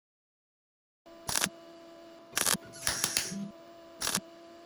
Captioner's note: camera shutter